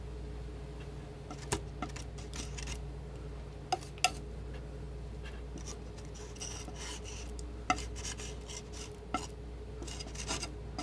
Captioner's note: scratching